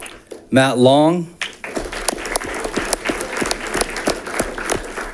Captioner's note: audience clapping